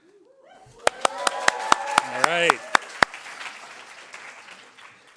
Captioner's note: applause